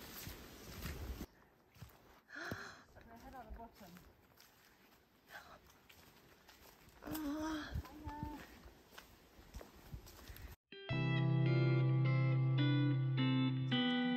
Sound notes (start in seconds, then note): 0.0 footsteps; 2.9 gasps